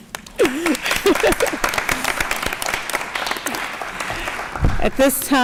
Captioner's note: applause